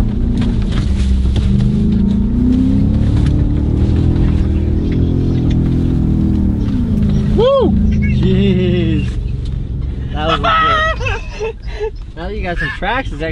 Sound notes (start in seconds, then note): 10.1 laughs